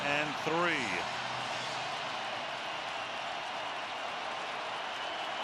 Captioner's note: crowd cheering